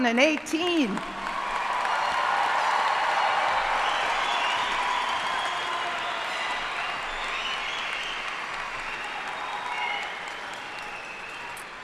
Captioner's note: cheers and applause